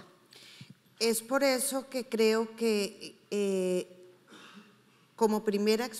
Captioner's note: speaking in foreign language